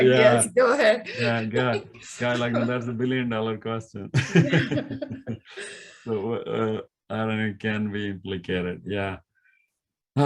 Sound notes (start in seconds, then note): 4.1 laughing